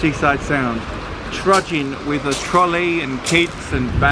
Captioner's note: feet crunch on pebbles